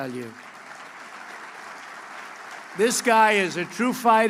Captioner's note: applause